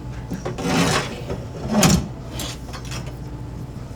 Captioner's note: tool grinding